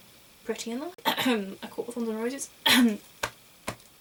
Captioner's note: coughs